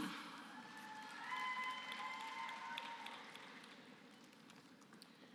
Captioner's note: applause